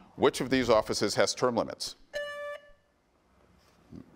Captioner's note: buzzer beeps